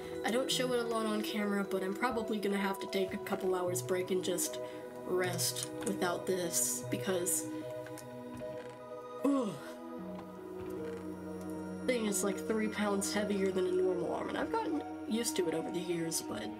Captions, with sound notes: I don't show it a lot on camera, but I'm probably gonna have to take a couple hours' break and just rest without this because [exhale] Thing is like three pounds heavier than a normal arm. And I've gotten used to it over the years, but